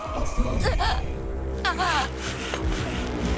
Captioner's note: demonic Laughing